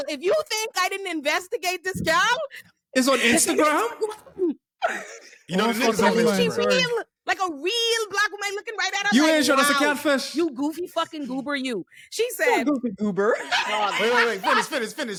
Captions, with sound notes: - If you think I didn't investigate this girl. - Is on Instagram? (all chattering) - Like a real black woman looking right at us. - You ain't showing us a catfish. - You goofy fucking goober you. She said. - You goofy goober. (all laughing) - Finish, finish,